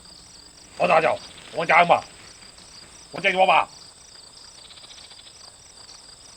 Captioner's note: speaking in a foreign language